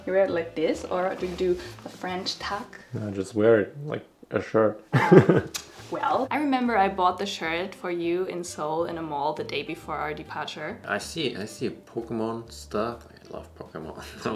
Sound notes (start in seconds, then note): 5.0 laughs